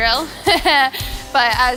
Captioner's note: laughing